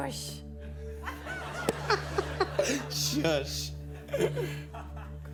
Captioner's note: laughing